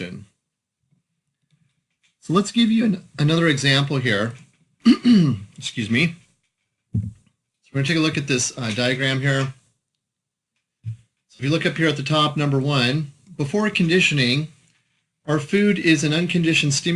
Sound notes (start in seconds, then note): 4.8 clearing throat